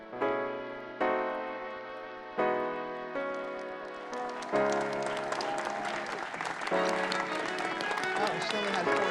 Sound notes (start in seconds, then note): 3.1 audience clapping